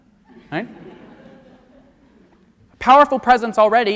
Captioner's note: audience laughs